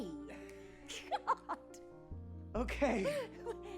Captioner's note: laughs